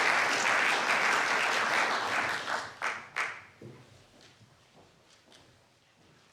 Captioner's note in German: Applaus